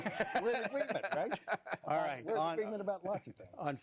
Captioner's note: laughter